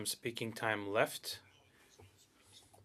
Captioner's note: speaking French